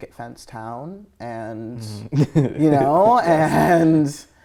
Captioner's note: laughing